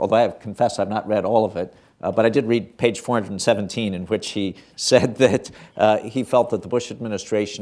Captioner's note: chuckles